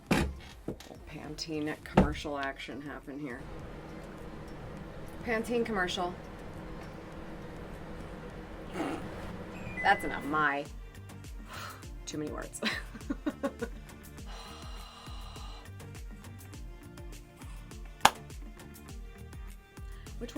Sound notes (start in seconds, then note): 11.4 sighs gently; 13.7 laughs; 14.3 exhales loudly; 18.0 hands clap